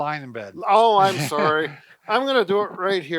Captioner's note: laughs